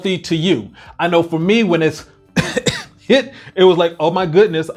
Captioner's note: coughs